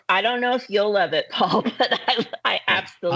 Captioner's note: chuckling